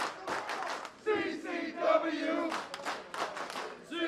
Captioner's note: crowd Chanting